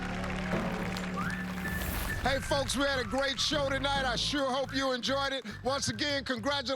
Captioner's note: applause